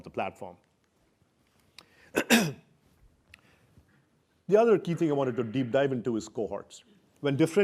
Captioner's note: cough